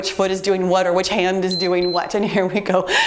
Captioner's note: timer beeps